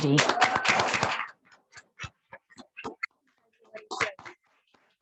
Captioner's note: congregation applauding